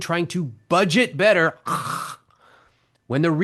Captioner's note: groans